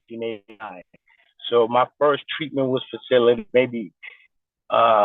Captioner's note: distorted recording